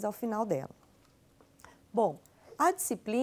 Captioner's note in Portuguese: silêncio